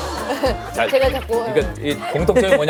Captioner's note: hahaha